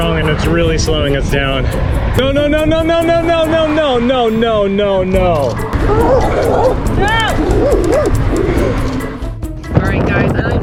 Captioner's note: dogs barking